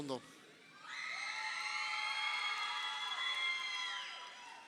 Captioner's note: crowd cheering